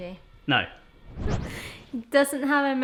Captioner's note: whooshes